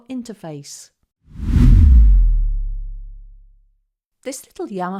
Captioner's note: air whooshing